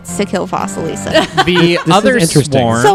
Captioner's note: laughs